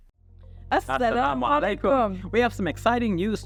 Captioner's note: both speaking Arabic